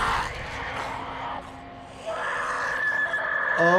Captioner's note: zombies snarling; screaming